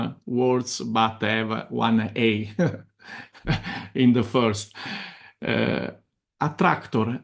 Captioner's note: laughs